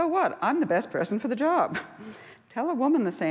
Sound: laughs

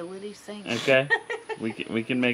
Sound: laughing

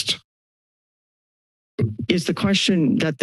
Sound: mic thumps

